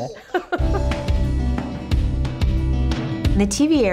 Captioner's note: laughter